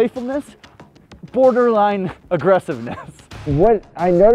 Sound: laughs

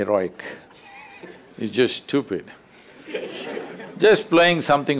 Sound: few Laugh

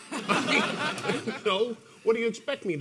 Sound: audience laughing

